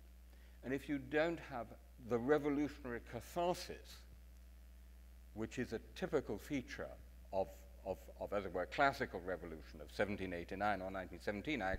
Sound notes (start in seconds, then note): none